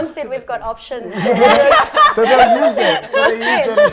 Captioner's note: laughter